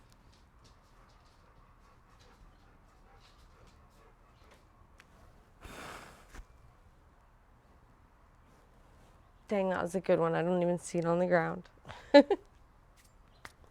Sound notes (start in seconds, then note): 3.3 blowing; 3.3 dog panting; 11.9 chuckles